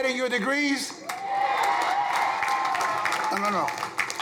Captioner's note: crowd cheering